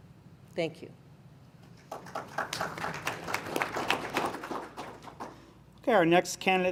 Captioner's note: applause